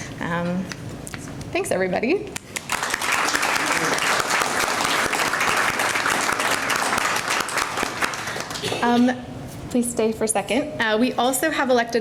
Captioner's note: applause